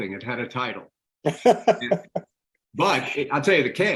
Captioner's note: laughing